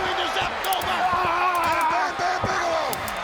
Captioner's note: Bam Bam screaming